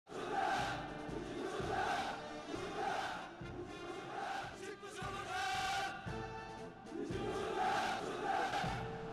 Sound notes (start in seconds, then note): 0.1 crowd cheering; 0.1 upbeat music